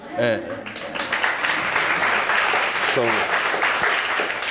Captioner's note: audience applauds